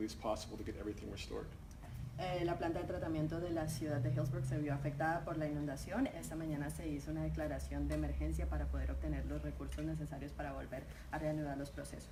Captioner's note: talking in Spanish